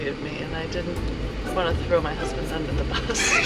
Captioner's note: laughs